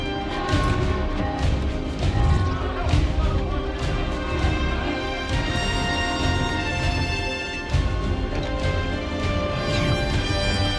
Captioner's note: hustle and bustle